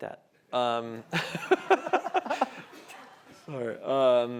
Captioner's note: laughter